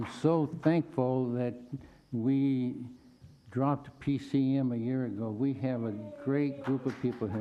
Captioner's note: applause